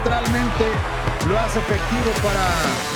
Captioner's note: Spanish